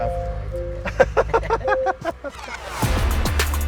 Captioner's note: laughs